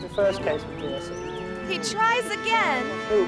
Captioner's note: cow lowing